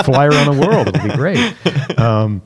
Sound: laughter

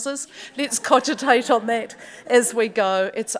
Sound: audience chuckles

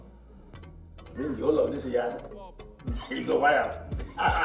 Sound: foreign language

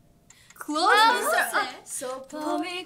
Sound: timer ticks

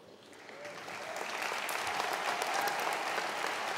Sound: crowd applauds

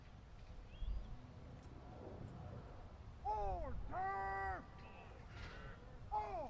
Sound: soldiers continue shouting commands

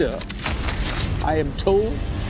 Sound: sound of guns cocking

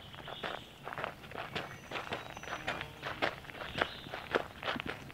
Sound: brisk footsteps on gravel

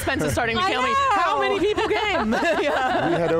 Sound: hosts laughing

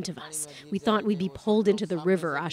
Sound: speaking alternate language

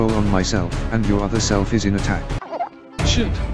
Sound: gulps

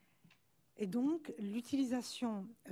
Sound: speaking french

